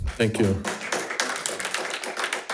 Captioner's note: audience applauding